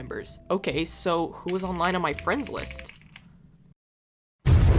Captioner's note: typing sounds